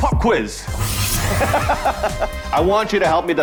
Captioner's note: man laughs